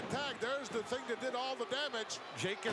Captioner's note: none